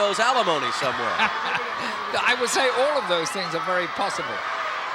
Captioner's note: laugh